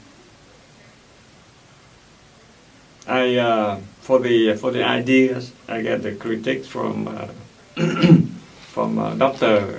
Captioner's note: clears throat